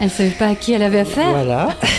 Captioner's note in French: rire